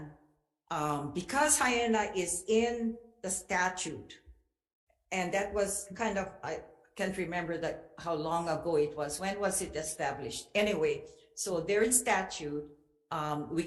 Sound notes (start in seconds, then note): none